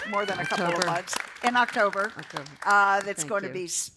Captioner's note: applause